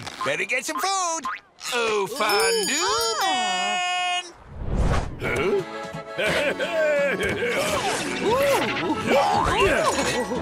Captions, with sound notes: Better get some food! Oh, Fondue Man! Huh? [laughs]